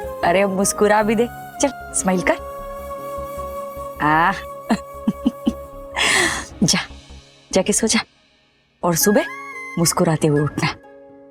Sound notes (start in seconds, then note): 5.0 chuckles